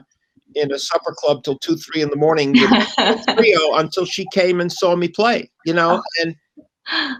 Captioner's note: laughter